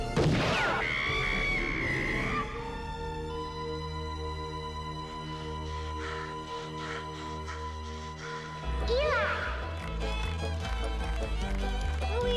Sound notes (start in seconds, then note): 0.0 gunshot blasts; 0.1 shot blasts; 1.1 Ma Weaver screaming; 5.4 Eli gasping; 8.7 lively folk music returns